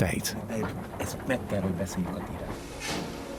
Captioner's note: speaks in foreign language